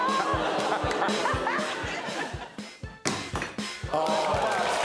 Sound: audience oohs

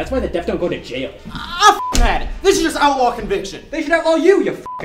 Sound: beep; beep

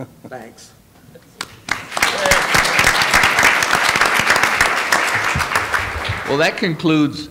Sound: applause

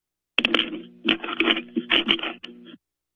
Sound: microphone static

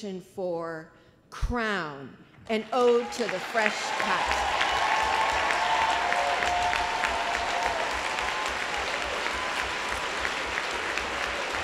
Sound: applause

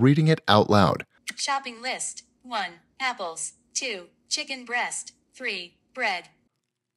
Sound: computerized voice

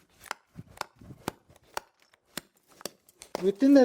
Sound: the sound of hitting the stone to break it, rattling, clacking

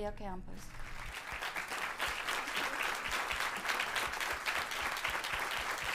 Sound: applause

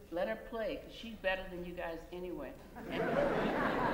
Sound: laughter

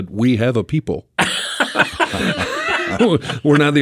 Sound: group laughs

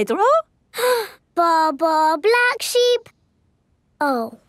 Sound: inhales

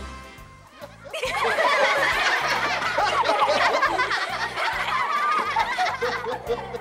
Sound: everyone laughs

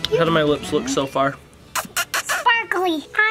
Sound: smooching

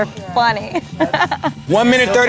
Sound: laugh

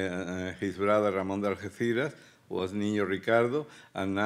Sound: speaking Spanish

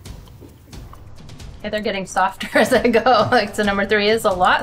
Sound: laughing

